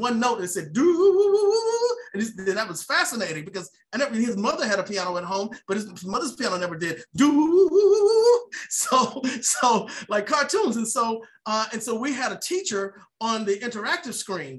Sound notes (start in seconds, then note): 7.9 laughs